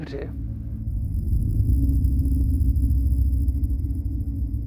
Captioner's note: static buzzes